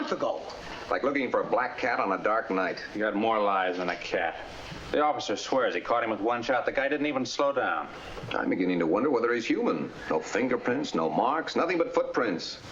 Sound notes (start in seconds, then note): none